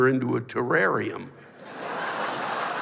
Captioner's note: laughter